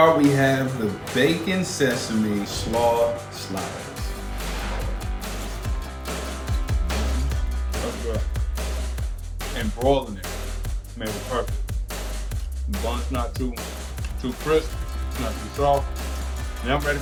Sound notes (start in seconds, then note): 4.0 air whooshes; 4.0 upbeat music